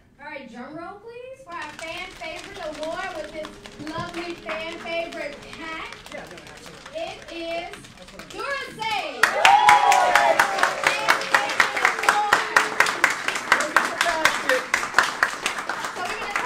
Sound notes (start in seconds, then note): 1.9 drumming; 9.4 cheering and applauding